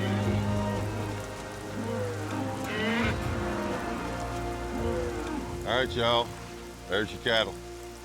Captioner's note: mooing